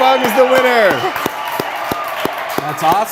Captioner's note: applause, cheering